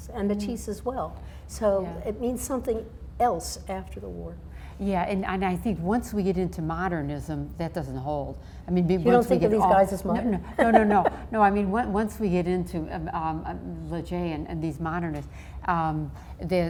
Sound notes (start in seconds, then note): 10.1 laughs